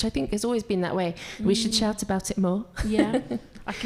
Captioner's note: laughs